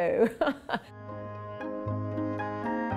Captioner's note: laughs